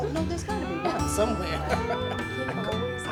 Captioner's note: laughs